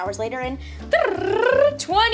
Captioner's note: rolling tongue